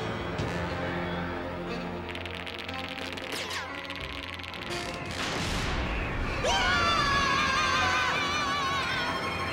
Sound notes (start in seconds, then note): 2.0 teeth chattering; 6.4 both screaming